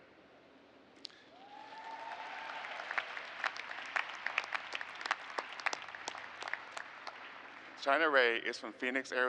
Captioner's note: cheers and applause